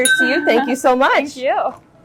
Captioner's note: glass dinging